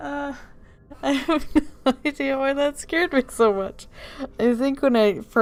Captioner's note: still laughing